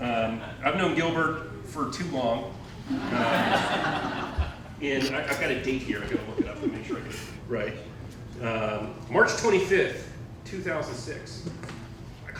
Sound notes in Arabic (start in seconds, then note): 2.8 الضيوف يضحكون